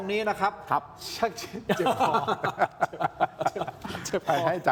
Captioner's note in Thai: เสียงหัวเราะ